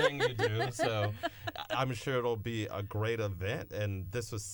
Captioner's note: laughter